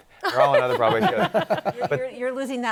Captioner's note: laughter